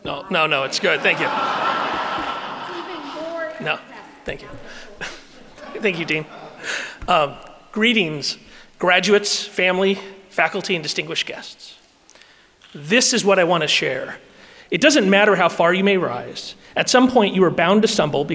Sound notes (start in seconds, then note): 0.3 audience laughing